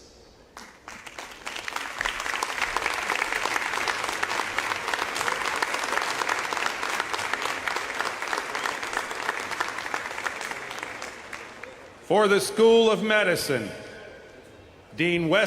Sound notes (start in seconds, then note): 3.5 applause